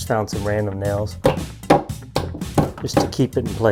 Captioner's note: hammer bangs